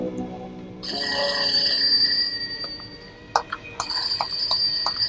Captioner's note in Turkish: Telefon zili